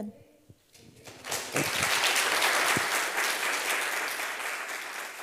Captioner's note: applause